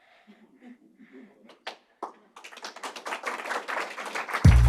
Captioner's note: audience applause; upbeat electronic music